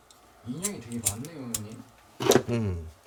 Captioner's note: the sound of lighting the lighter